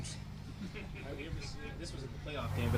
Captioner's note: journalists laughing